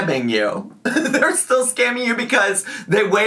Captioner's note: laughs